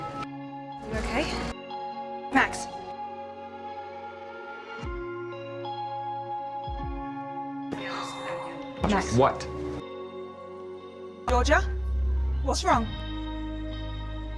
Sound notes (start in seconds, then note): 0.9 voiceover; 7.7 Helen exhales; 12.4 voiceover